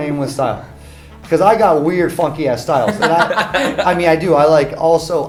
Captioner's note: laugh